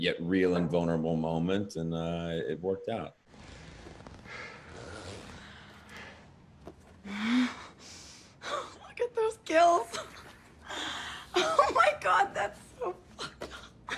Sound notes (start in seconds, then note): 3.3 zipper unzipping; 6.9 gasping